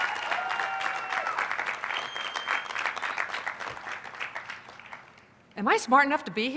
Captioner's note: applause